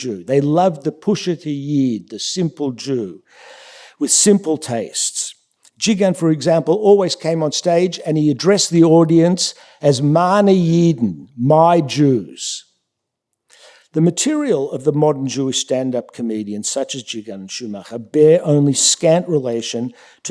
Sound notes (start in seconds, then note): 1.6 yiddish; 11.6 yiddish